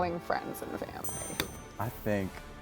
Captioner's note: timer dings